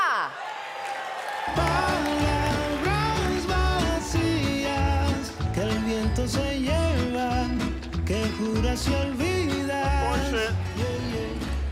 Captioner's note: speaking spanish